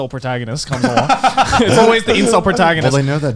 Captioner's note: laughing